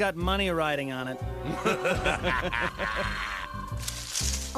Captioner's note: laughter